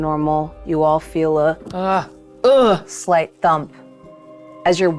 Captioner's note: grunts